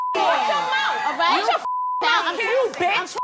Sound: beep; beep

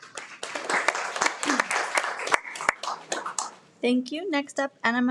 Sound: everyone applauds

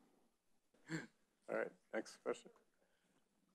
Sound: chuckles

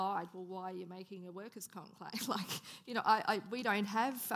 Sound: laughing

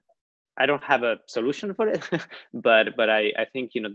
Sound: laughs

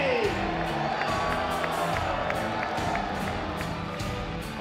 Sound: audience cheering

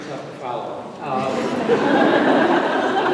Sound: laughter

